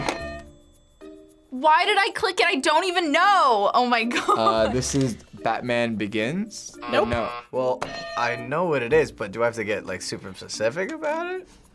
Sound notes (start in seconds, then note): 0.0 bell rings; 6.8 buzzer rings